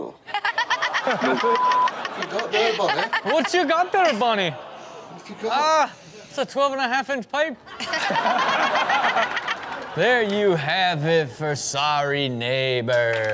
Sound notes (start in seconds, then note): 0.3 everyone laughs; 5.2 audience groans; 7.8 everyone laughs